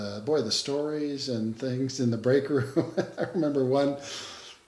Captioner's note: laughs